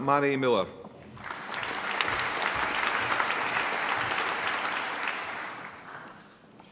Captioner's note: applause